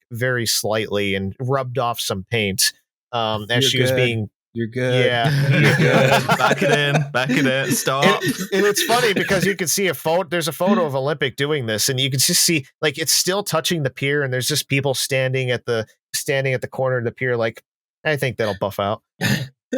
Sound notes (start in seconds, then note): 4.9 laughter